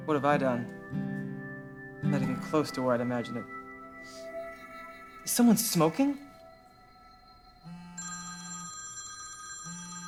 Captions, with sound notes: What have I done? I’m not even close to where I’d imagined I’d… (sniffs) Is someone smoking? (phone rings)